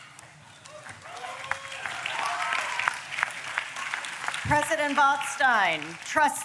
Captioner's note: applause